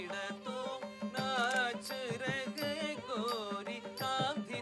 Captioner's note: camera clicking